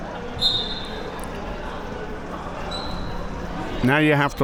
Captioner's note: whistle being blown